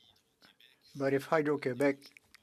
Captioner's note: speaking French